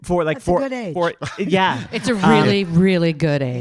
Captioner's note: audience laughing